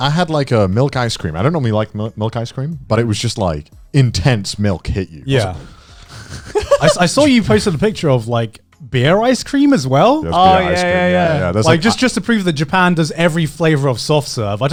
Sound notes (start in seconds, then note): 5.8 sighing; 6.1 chuckling